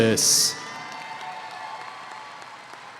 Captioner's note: cheering